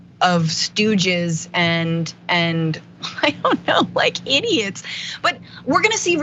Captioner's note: laugh